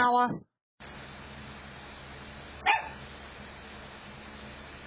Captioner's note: Ella barks